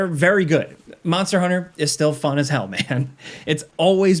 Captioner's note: laughing